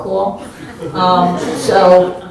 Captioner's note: audience laughs